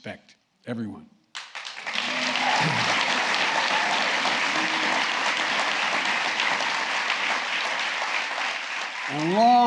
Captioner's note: applause